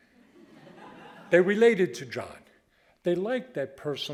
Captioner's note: audience laughing